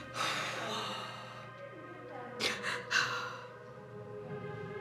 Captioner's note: sobbing